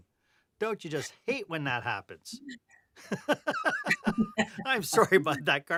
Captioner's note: laughter